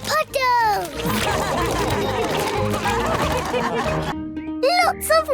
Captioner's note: all laugh